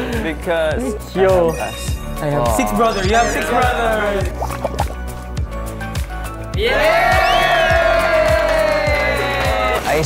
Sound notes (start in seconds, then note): 4.2 crying 8ㅅ8